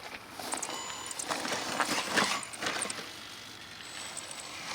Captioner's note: engine roaring softly